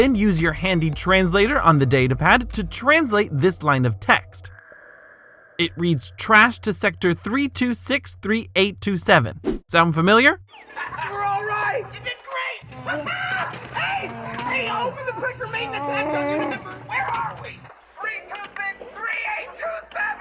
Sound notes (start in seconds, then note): 12.8 laughs